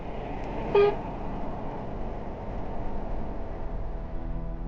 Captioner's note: truck horn beeps